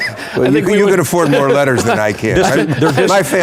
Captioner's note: laughing